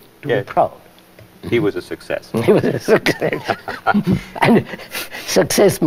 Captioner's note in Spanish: ríe